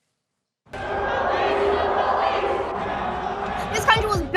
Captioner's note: crowd chants